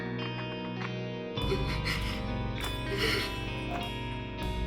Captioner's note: Moira starts crying